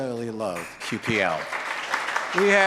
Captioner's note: audience claps